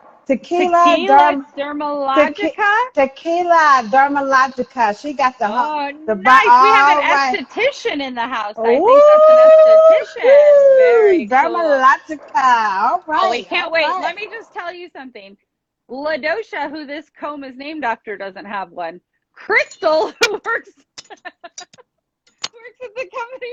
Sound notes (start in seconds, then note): 6.3 chattering